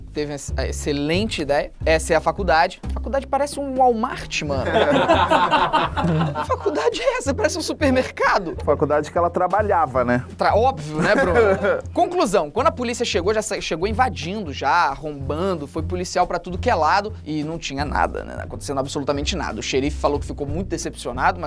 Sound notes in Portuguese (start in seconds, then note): 4.6 risadas; 10.9 risadas